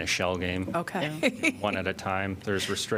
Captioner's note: laughter